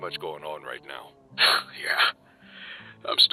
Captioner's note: scoffs